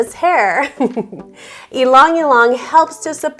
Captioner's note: chuckles